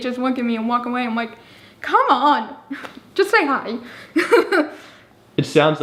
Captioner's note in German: lacht